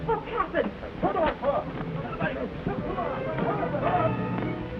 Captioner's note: sailors shout